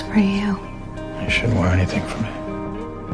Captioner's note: voiceover